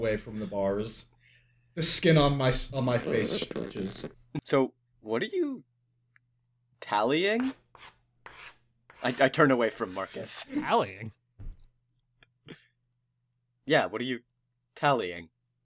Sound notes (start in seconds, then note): 8.2 chalk scratches